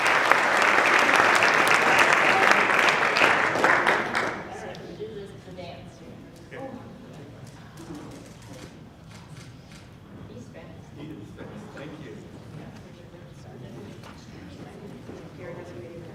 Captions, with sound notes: (speaking off mic) - He's fast. - He is fast. Thank you. (speaking off mic)